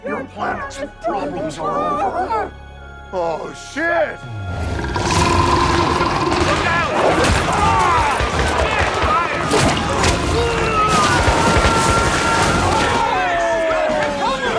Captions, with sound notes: Your planet's problems are over. - Oh shit! - Oh shit! (Steenium roars) - Look out! - Come on! (soldiers screaming) (gunshots popping)